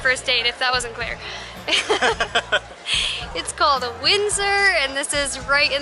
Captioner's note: laughter